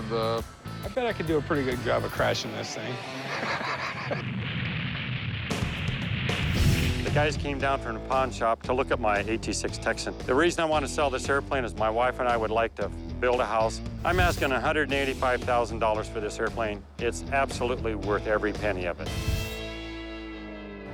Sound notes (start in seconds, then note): 2.4 laughs